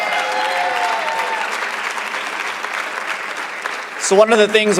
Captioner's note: cheers and applause